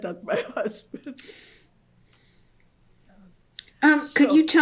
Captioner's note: laughs